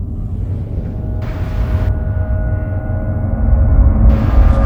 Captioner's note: train whooshing